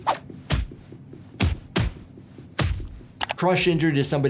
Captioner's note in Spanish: golpeando el pie